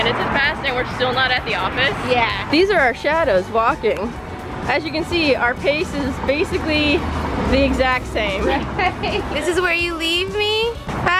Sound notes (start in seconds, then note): 8.3 laughs